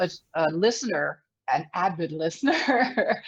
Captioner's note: laughs